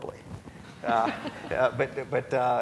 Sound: laughing

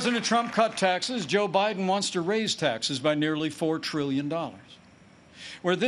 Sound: applause

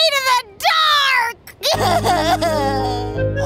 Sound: sobbing

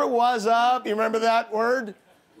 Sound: laughter

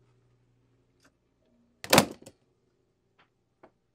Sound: metal smacks against wood

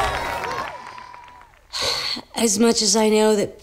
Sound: sighing

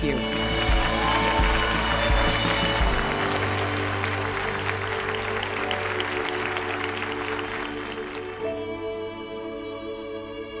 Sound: applause

